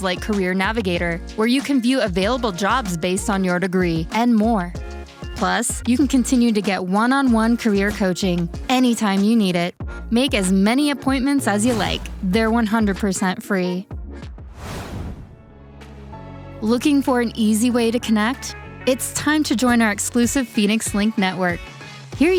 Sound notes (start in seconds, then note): 14.4 air whooshes; 15.1 upbeat music